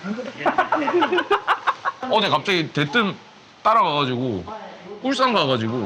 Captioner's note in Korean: 웃음